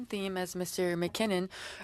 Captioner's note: speaking French